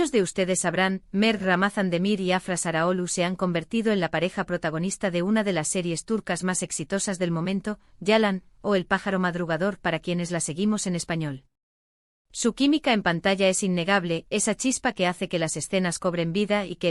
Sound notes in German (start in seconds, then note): 8.8 auf Spanisch: „Der frühe Vogel“